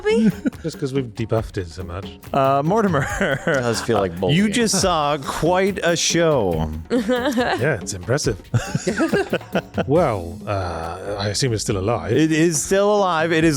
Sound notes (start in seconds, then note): 6.6 laugh; 8.5 laughter